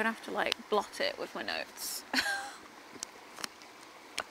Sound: laughs

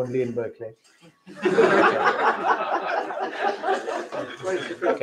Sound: laughter

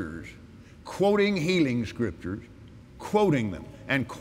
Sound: none

